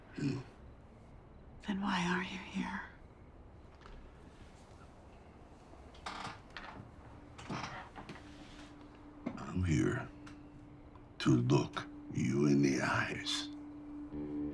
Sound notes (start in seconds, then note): 7.4 chair creaks; 14.3 somber western music